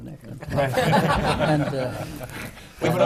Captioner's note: laughter